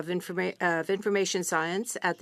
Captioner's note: speaking French